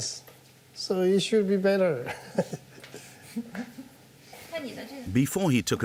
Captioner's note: chuckles softly